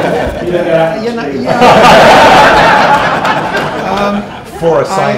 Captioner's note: chatter, laughter